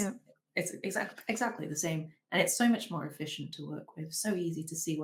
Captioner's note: none